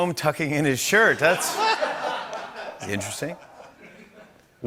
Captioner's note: laughter